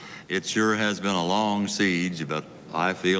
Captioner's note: none